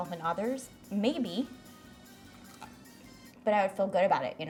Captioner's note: bites